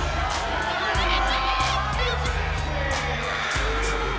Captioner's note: fan shouting